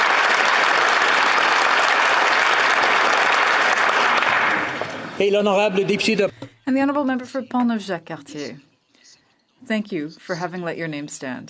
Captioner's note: applause